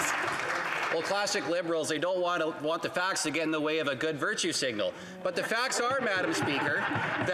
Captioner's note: applause